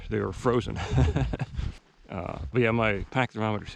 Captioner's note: laughs